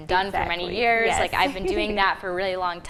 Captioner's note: laughing